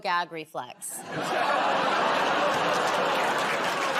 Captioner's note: audience groans